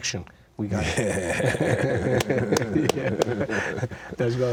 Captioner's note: laughing